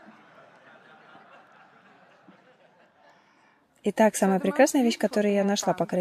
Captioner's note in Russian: Смех